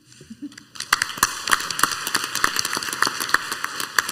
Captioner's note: clapping